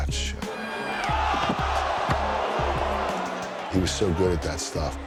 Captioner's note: crowd cheers